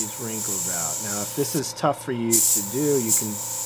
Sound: motor whirring

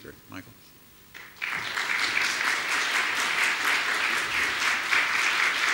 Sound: audience applauding

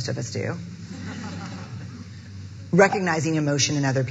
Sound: audience laughing

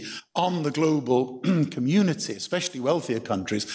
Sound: clears throat

